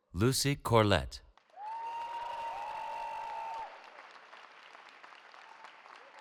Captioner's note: cheering